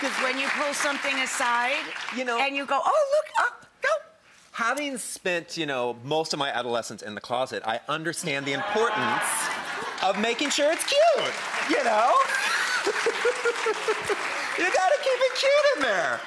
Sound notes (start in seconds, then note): 12.0 laughing; 13.1 audience clapping